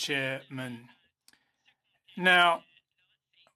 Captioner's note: speaking in French